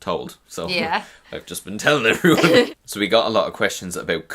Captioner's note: laughs